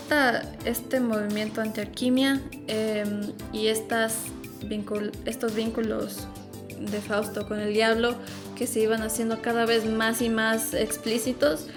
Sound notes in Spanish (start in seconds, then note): none